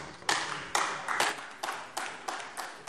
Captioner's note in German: Beifall AfD